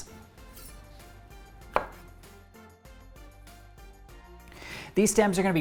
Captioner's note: knife chopping